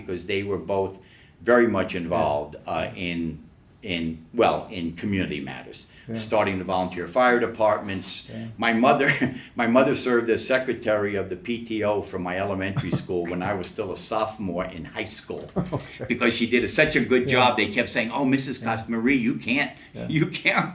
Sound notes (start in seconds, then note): 15.4 laughs